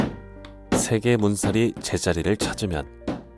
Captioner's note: hammering sound